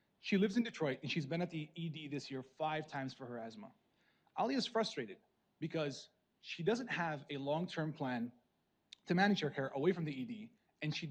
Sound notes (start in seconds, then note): none